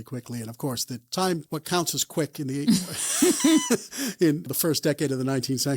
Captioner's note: both laugh